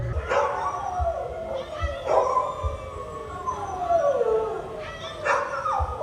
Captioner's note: dog howling